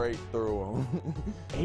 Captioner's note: chuckles